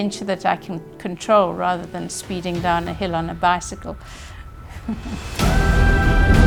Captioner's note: laughs